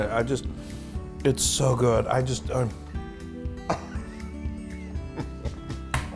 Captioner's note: laugh